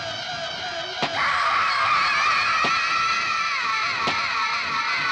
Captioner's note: screaming